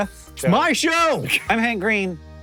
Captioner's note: shouting